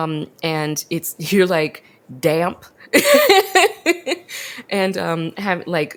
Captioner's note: laughs